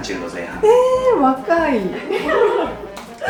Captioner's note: laughs